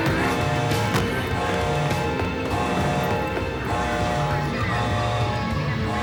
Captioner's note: dramatic music; alarm buzzes rhythmically